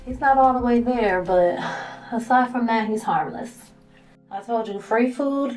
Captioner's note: sighs